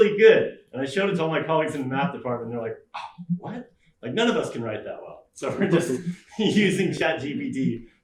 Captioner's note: scoff